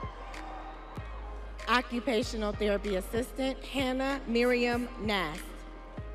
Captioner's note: audience cheering